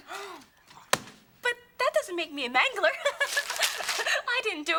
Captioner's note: nervous laugh